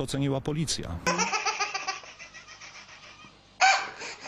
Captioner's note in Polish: śmiech